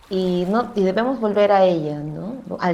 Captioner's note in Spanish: sonidos de agua, tronco árbol y voz off femenina #6